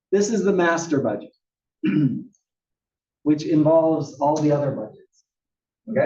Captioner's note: cough